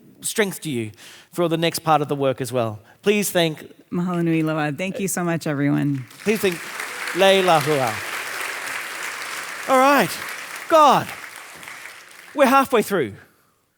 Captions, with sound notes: for the next part of the work as well. Please thank. - Mahalo nui loa, thank you so much everyone. - Please thank Leilehua. (audience applauding) - All right, god, we're halfway through.